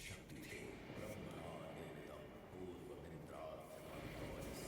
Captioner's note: in Sanskrit